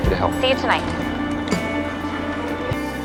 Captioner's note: Max ends the call with a click